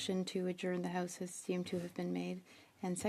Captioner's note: speaking French